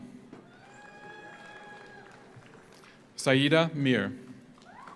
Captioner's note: audience cheers; audience applauds